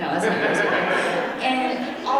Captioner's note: audience laughing